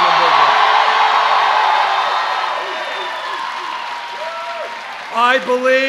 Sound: cheers

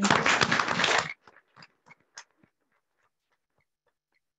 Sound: audience clapping

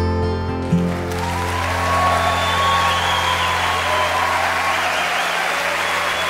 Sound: audience cheers and applauds

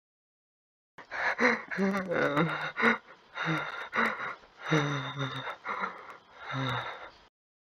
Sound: semaJ sobbing

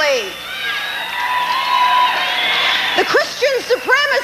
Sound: audience cheers

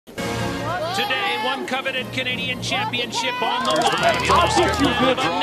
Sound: women shouting

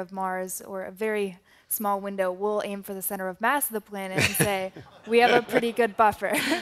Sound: laughter

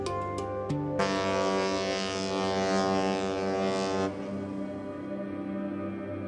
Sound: ship horn

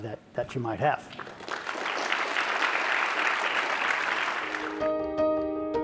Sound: applause

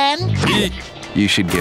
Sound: laughing

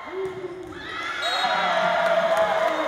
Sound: cheering; ref whistle

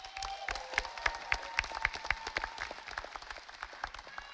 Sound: audience applauding

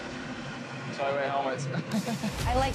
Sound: laughs

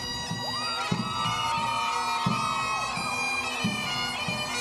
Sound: cheering

